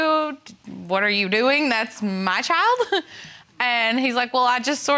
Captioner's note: giggles